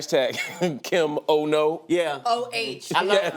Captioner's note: chuckles